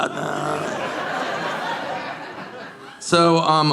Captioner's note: audience laughing